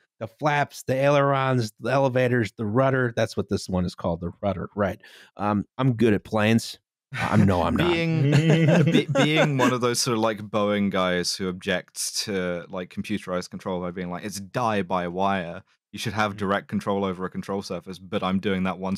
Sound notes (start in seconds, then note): 7.2 all laughing